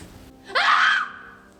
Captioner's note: screams